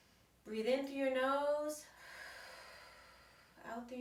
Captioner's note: exhales